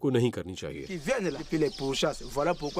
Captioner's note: speaks foreign language